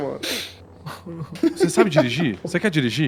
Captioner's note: laughs